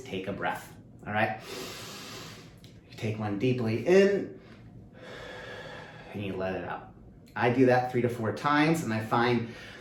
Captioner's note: deep breath